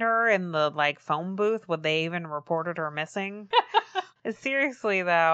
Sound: laughs

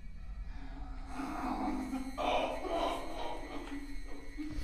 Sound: painful guttural, growling noises

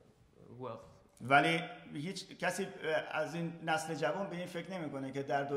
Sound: speaking in farsi

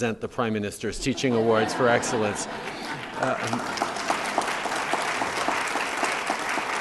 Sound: laughter & applause

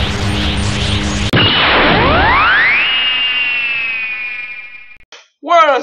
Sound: blast sound effect

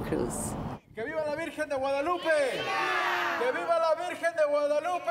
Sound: chanting in foreign language

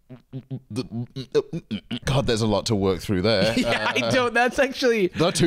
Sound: stuttering

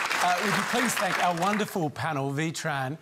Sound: applause

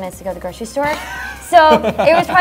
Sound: laughs

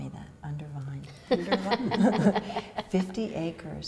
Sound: woman laughs

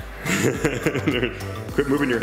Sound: laughter

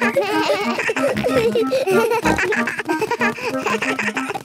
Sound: giggles; snorts, bleating

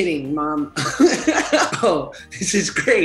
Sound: laughs

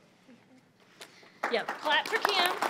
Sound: audience applauding

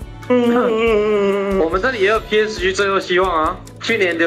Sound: yawns

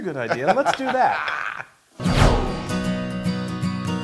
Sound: laugh

